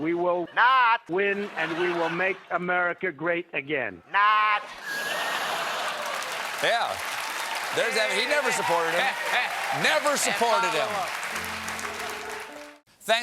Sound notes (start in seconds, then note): 4.8 laughter; 5.6 applause